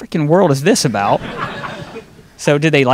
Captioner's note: audience laughing